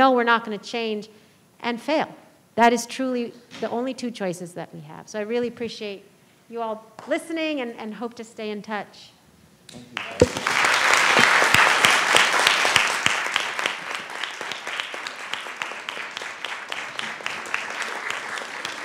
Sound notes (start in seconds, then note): 9.9 audience applauding